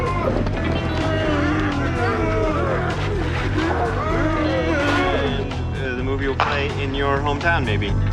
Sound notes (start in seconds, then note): 2.3 growling